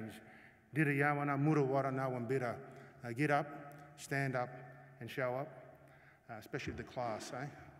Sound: non-english speech

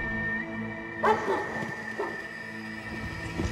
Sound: whistles; dogs barking

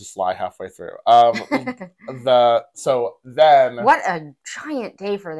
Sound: laugh

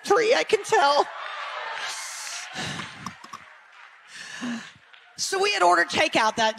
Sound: audience chatter

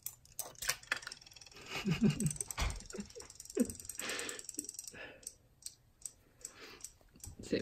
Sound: toy clicks; toy splashes; laughs

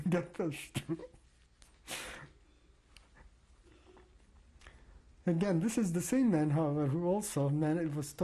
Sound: laughs

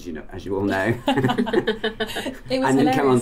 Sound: laughter

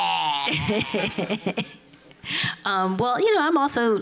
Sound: laughing

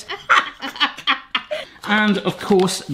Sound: both laughing

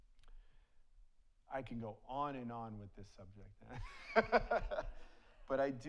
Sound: laughs; audience laughs

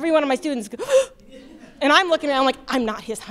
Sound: gasps

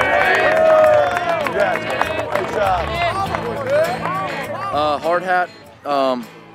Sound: cheering and clapping

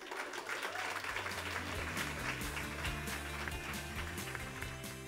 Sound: applause and music

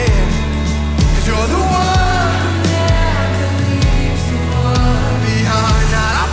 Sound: crowd

